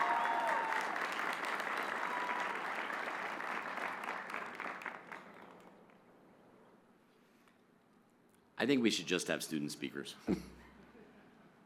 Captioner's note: applause